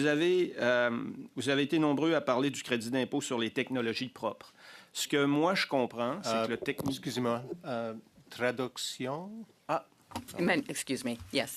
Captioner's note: speaking French